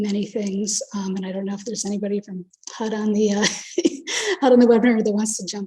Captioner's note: laughs